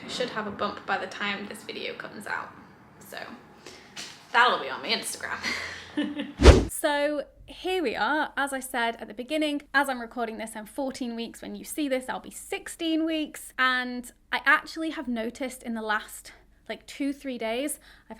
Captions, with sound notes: I should have a bump by the time this video comes out. So that will be on my Instagram. (whooshing sound) So here we are. As I said, at the beginning, as I'm recording this and 14 weeks. When you see this, I'll be 16 weeks. And I actually have noticed in the last like two, three days,